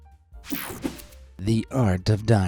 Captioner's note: screen whooshing